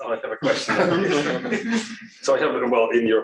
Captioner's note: laughter